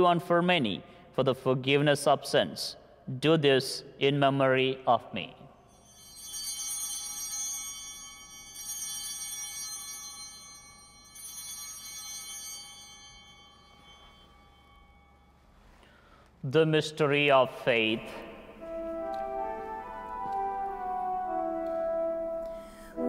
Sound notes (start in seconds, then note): 5.6 chimes ringing; 17.7 organ playing